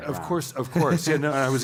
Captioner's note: laugh